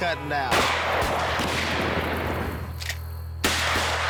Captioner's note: gunshots